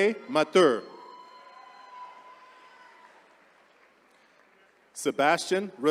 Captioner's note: attendees cheering